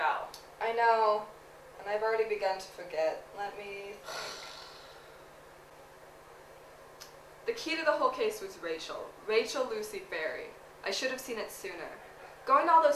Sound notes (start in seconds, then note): 4.0 sighs